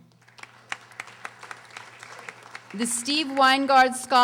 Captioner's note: audience applauding